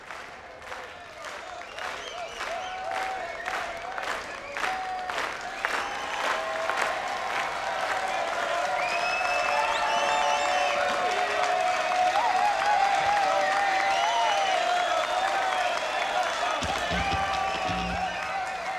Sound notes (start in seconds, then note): 3.4 crowd; 9.9 clapping and cheering